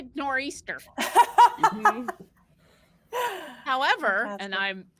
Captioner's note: all laughing